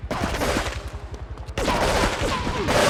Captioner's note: gun firing